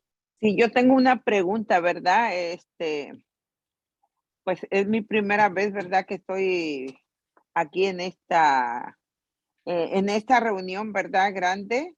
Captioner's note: in Spanish